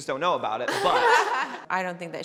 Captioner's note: everyone laughing